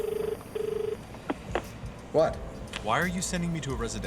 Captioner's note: outgoing dial tone; jazzy music; receiver clicks